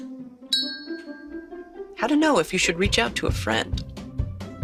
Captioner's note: bell dinging